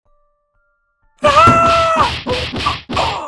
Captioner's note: screaming; punching